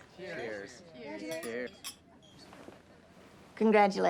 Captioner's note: glasses clinking